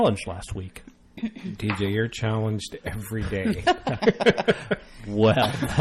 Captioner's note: laugh